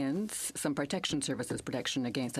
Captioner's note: speaking french